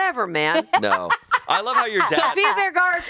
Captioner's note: laughs